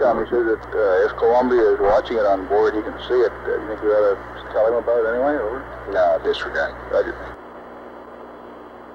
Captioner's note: mission Control Audio